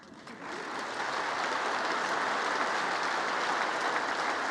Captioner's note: congress applauding